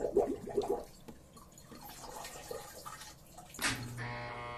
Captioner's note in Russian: звук воды